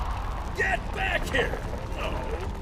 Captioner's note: wind blowing